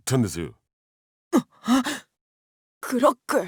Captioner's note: gasp